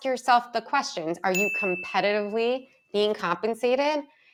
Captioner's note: text chimes